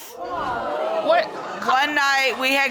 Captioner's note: audience gasping